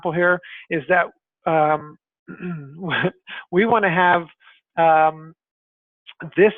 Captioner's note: laughs